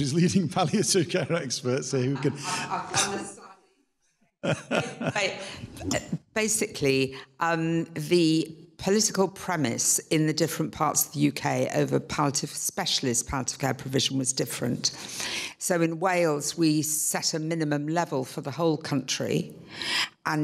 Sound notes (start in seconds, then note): 2.6 woman speaking off microphone; 4.4 laughs